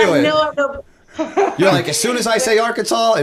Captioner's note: chuckle